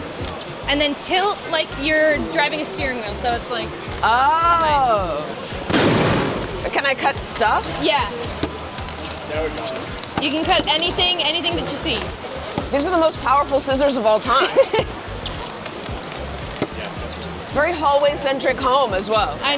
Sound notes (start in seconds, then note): 5.6 gunshot; 14.3 host laughs